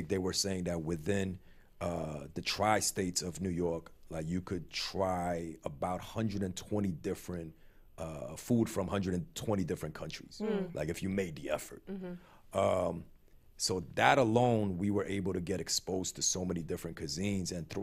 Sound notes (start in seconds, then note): none